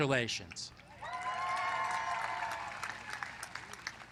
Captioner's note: applause